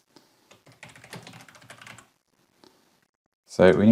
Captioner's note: keyboard clicking